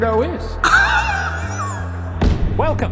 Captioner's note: wheezes